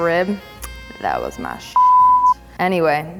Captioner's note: beep